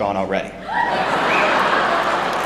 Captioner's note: laughter